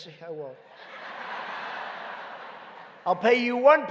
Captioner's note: laughter